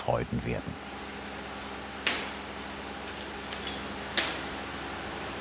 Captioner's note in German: Ventilatorrauschen, Schnittgeräusche